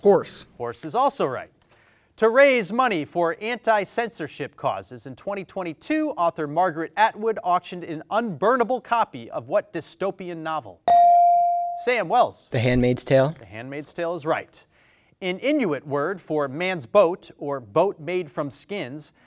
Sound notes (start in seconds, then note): 10.8 bell dings